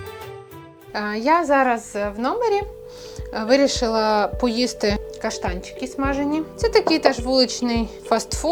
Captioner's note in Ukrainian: сопіння